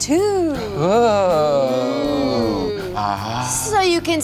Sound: oohs

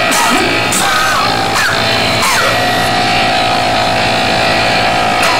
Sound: muffled screams

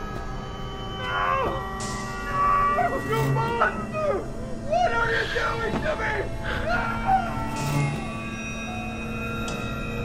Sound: crying for help

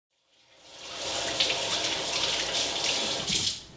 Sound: water running

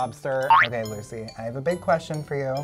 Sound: loud boink

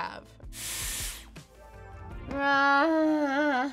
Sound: hair tool whooshes

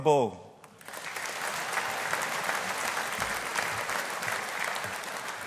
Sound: audience applauding

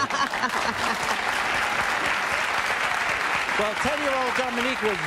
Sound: audience applauding

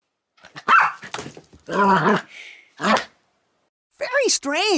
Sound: Doofie barks and growls

